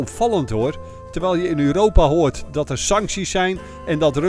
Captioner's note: voiceover